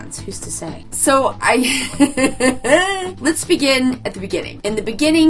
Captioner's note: laughs